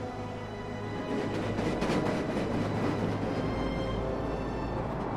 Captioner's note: train clanking